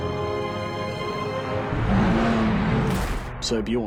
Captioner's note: roaring